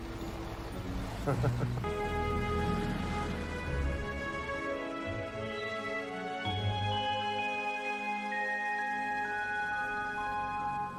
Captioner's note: laughs